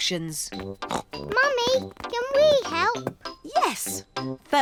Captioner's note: snorts